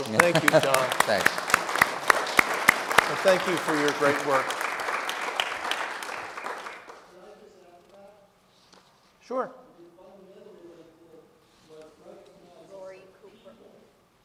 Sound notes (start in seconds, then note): 1.6 audience applauding; 7.0 speaker speaking faintly